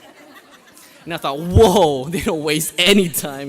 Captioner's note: graduates laugh